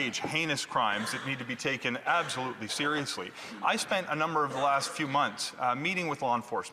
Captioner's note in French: voix de l'interprète